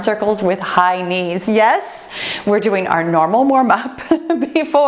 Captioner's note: laughs